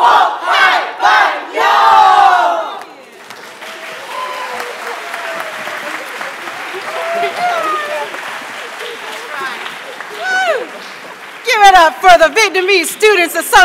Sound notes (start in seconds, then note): 5.8 cheering; 8.8 applause